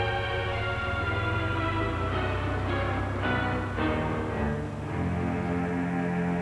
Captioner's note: horn honks